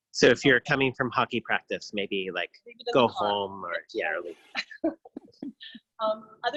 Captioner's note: laughs